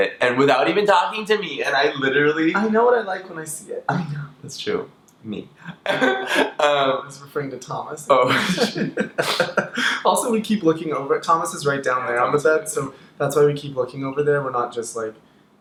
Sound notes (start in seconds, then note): 5.5 laughs; 8.2 both laugh